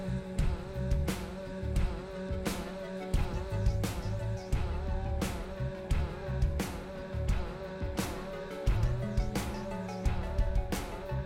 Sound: echoing

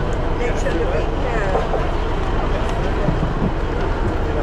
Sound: people chat

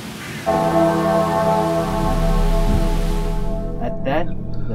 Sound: bell rings loudly

